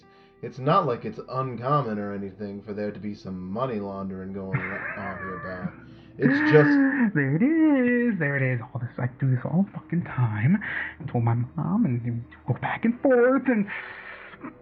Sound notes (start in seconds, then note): 4.3 laughing